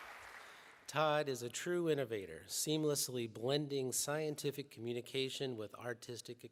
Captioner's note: applause